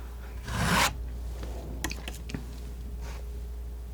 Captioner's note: scratching